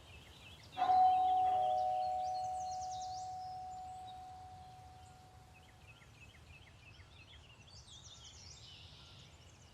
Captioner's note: ambience: birds chirping, trees blowing in wind, rural/suburb neighborhood; doorbell rings. Pause